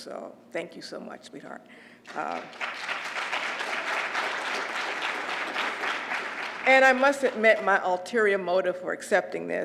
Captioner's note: applause